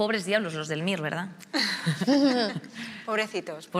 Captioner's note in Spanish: algunos ríen